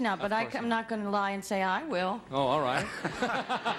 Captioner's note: laughing